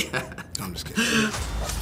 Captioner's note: laughs